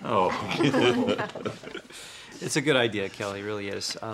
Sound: laughter

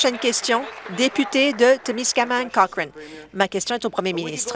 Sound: applause

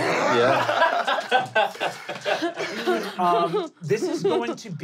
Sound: laughing

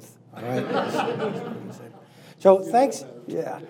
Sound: laughing

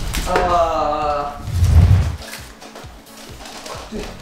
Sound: crinkling

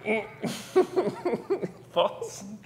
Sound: chuckles

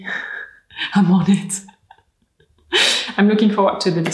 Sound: laughs

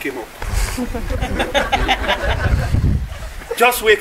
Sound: guests laughing

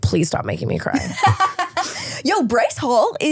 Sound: laughing

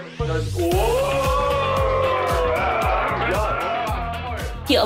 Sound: upbeat music; group cheering

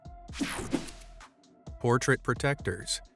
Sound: screen whooshing

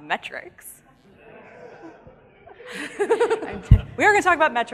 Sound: audience laughing

